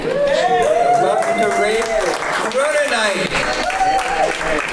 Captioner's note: applause